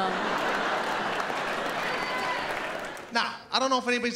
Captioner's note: audience laughs